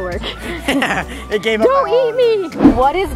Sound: laughing

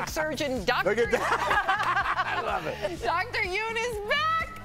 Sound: laughter

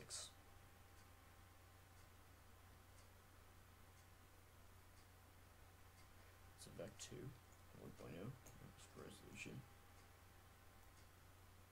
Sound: clock ticking

